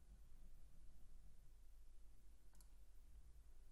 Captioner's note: mouse clicking